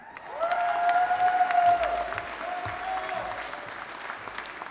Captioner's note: audience applauding